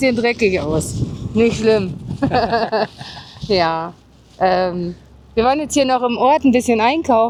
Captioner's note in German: gelächter